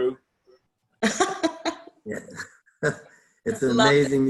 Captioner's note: laughter